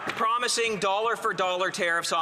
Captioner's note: some applause